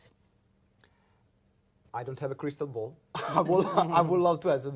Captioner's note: laughs